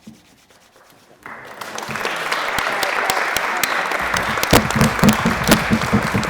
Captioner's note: applause